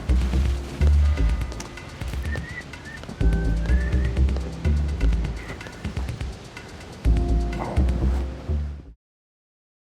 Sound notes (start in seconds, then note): 2.2 man whistling